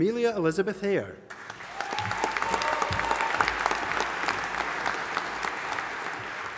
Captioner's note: audience applauding and cheering